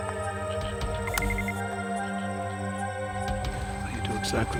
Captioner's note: bomb beeps